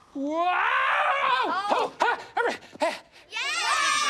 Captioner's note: cheering